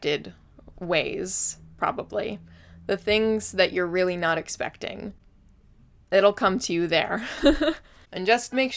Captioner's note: laughs